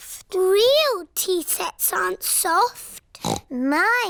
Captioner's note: snorts